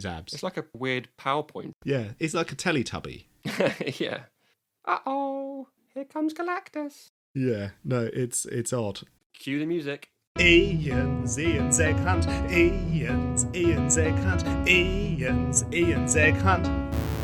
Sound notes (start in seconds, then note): 3.4 laughs; 4.9 Teletubby voice